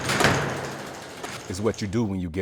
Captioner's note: lock clicking